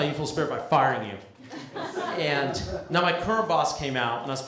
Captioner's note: laughter